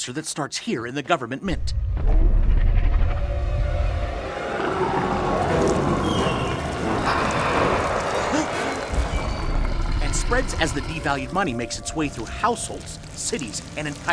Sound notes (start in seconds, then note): 3.0 ground rumbling; 5.9 monster growling